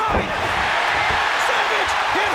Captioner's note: audience cheers